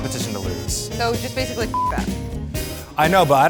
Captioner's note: beep